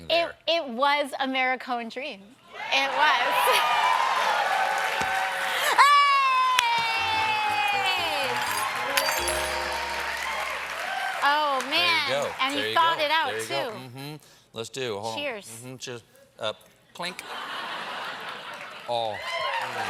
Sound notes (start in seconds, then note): 9.3 cheers and applause